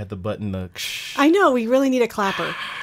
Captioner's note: hushing